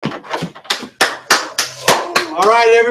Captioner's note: claps